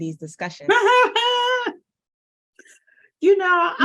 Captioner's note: laughs